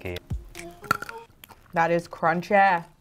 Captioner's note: profiterole crunches